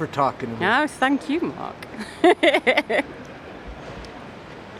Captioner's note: laughs